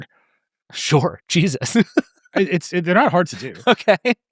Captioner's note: laughing